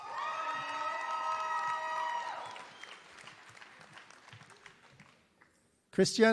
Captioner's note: applause